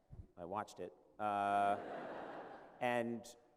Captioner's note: laughter